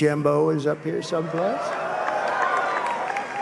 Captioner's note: applause